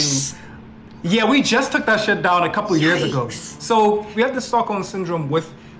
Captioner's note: foreign